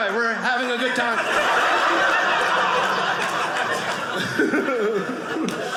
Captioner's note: audience cheering